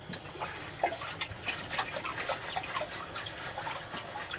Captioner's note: sloshing water